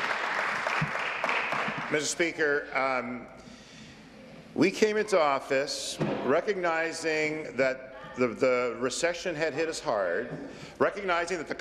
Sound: applause

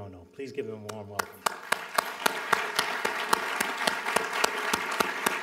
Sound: applause

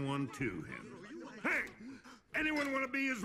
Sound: gasps

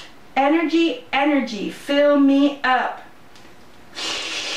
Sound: sucking sound

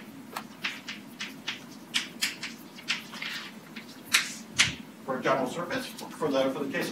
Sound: chalk writing on a chalkboard

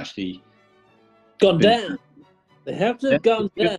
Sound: american accent

